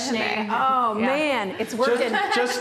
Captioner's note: laughing